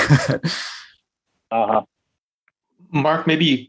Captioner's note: laughter